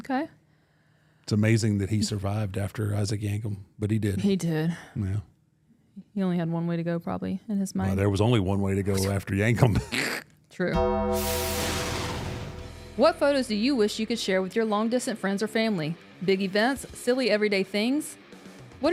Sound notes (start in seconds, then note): 10.1 grunts; 10.7 dramatic music